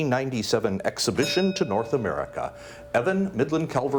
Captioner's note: bell dings